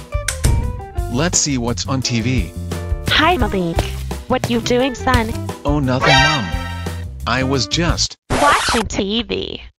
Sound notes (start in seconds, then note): 0.1 door closes; 3.5 footsteps; 8.2 record scratches